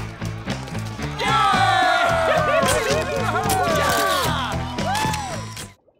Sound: cheering

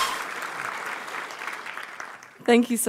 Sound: audience applauds

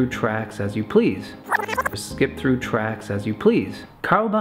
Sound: rewinding Sound

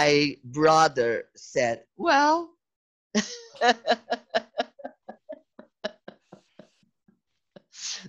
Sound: risos

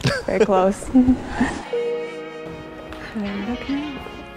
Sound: chuckles

